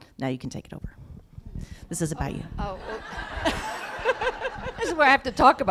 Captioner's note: laughter